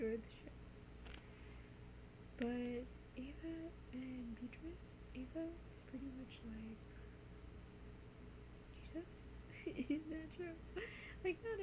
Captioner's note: laughs